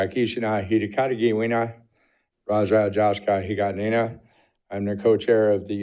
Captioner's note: speaking indigenous language